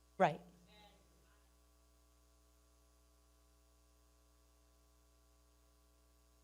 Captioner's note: speaking away from mic